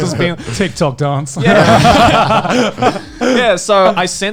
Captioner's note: laughing